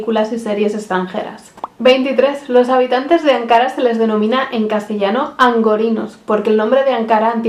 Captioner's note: in Spanish